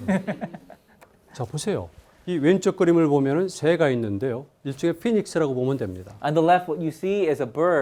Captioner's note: laughs; speaking in Korean